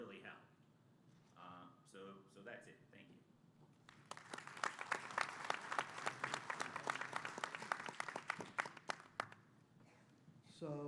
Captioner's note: applause